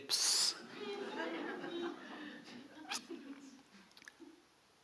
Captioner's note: audience laughing